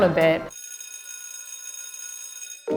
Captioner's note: school bell rings